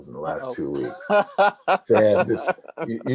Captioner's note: laughs